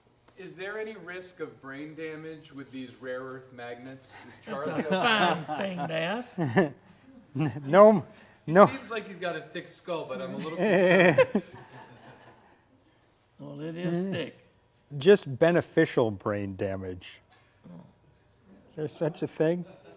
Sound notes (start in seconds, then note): 4.4 laughter; 10.3 laughter